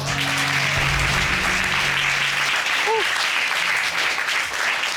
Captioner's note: applause